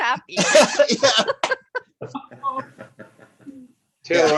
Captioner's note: laughter